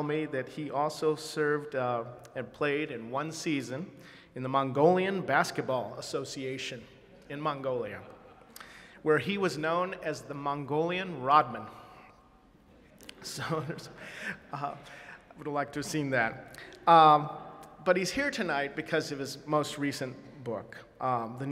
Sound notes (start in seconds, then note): 12.3 audience laughing; 13.4 chuckling